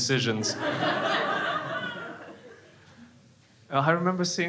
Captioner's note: crowd laughs